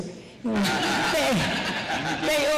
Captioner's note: laughter